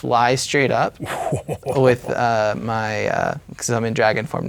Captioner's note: laughing